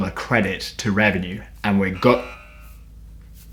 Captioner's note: buzz